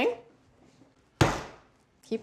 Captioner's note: pounds once